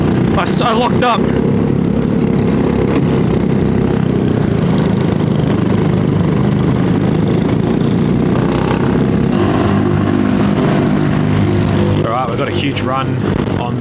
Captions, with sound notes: I'm so locked up. [engine noise] All right, we've got a huge run on the